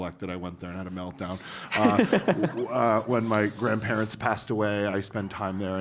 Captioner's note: laugh